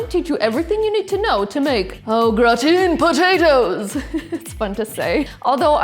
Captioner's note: laughs